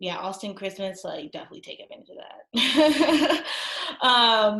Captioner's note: laughs